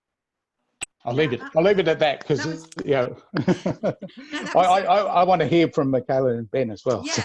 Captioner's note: laughs